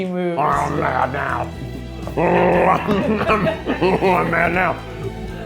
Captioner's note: growling